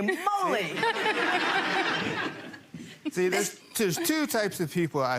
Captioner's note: people laughing